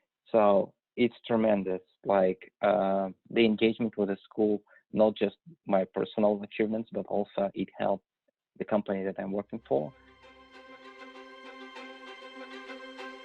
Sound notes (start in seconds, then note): none